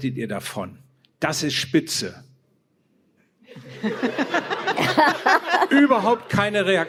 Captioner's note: laughter